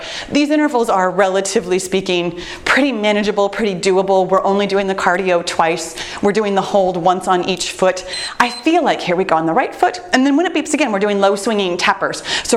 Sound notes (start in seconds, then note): 8.0 timer beeps